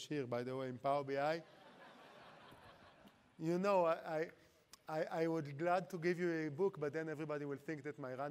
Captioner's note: laughter